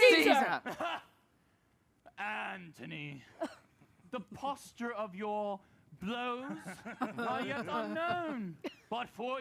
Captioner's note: laughs